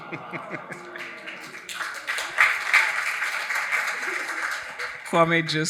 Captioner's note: audience applauding